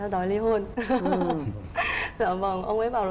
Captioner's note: laughing